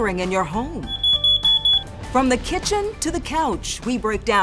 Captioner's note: fire alarm beeping